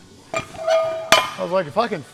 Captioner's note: heavy clanging